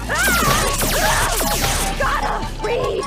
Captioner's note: screams; laser blasting